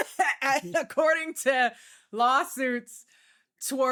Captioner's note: laughing